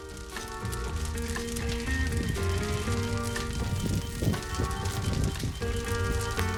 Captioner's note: fire crackling; gentle music